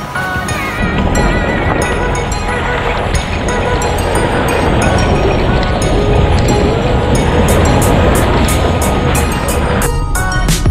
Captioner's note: driving, water splashes